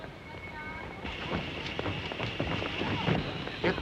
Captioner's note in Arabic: هسهسة البخار